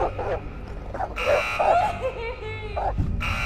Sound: dog barks

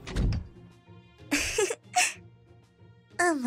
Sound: giggle

